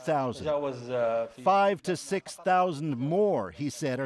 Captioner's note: speaking alternate language